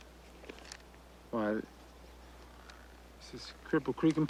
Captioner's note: none